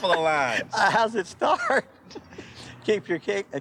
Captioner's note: laughing